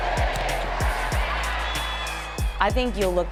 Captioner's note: stadium cheering